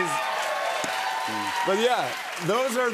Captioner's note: cheers and applause